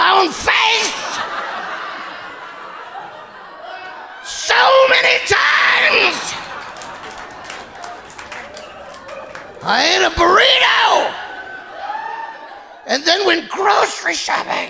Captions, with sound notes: (audience laughing) So many times. (audience applauding) I ate a burrito and then went grocery shopping at Ralph's.